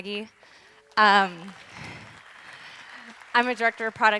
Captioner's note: audience clapping